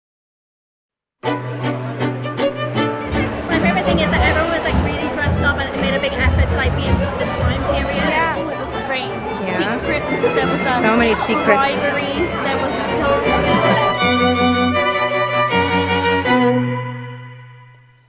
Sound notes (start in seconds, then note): 1.2 crowd chatters; 1.2 orchestral music; 15.0 orchestral music